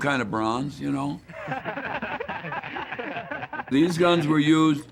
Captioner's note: men laughing